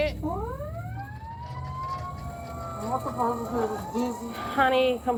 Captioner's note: sirens